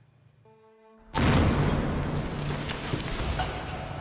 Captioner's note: explosions